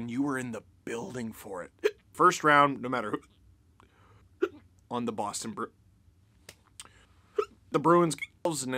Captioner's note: hiccup; hiccup; hiccup